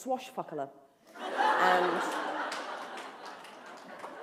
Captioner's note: laughter